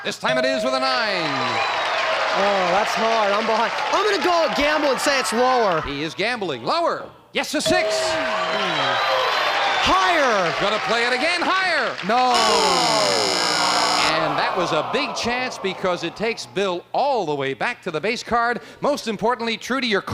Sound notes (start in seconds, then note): 12.3 buzz